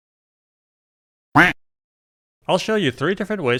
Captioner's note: duck quack sound effect